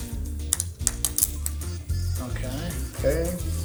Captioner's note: buckle clicks